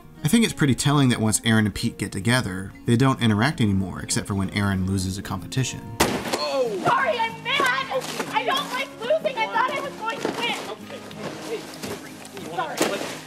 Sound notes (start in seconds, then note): 6.0 smash